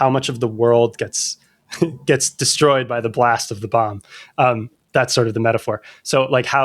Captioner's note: laughter